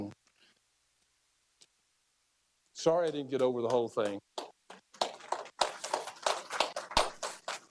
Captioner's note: applause